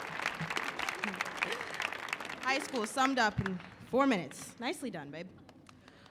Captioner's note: chuckling